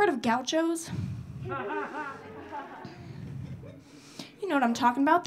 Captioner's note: audience laughing